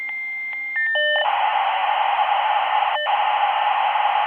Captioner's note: dial-up noises